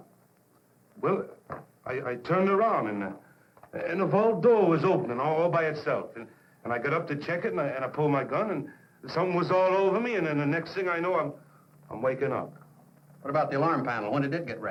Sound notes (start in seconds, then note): none